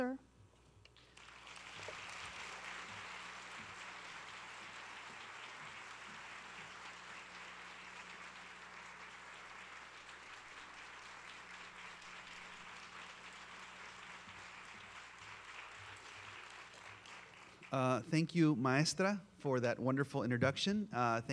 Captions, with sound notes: Sir? (applause) - Thank you, Maria, for that wonderful introduction.